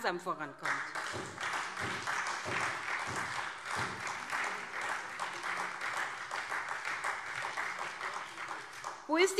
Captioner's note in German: Beifall SPD und Freie Demokraten